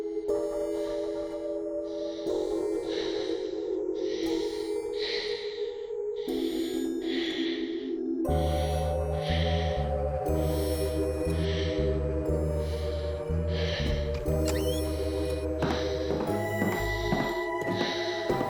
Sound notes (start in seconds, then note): 2.4 person panting; 8.3 scary music; 13.4 person panting; 15.4 scary music